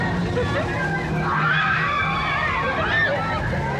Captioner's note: riders squeal